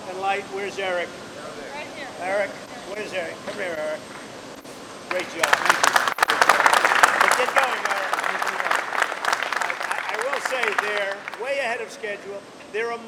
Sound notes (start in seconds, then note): 5.0 applause